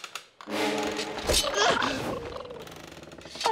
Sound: creaking; chittering

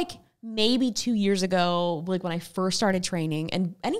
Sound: none

